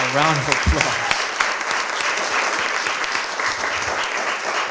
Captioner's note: applause